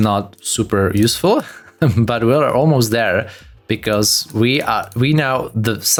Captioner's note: laughs